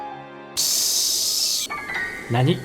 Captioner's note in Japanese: セミの鳴き声